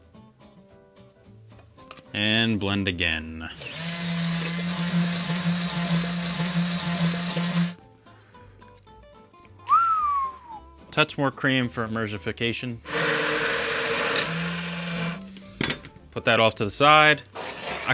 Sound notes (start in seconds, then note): 0.0 soft cheerful music continues; 3.5 blender whirs; 9.7 whistles dramatically; 12.8 blender whirs